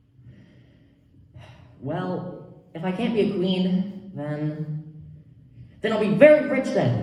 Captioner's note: sigh